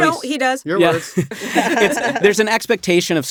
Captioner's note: all chuckling